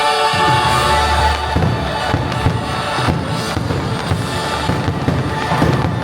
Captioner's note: fireworks pop and crackle